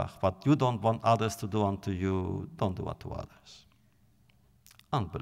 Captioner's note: none